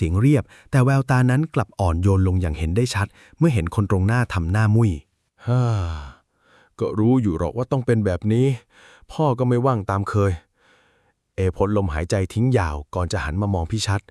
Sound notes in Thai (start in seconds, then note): 5.4 เสียงถอนหายใจ